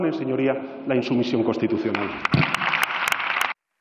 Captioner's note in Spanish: Aplausos